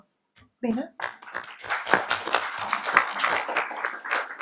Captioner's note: applauding